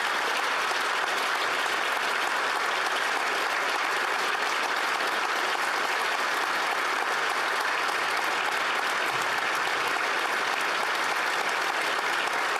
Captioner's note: applause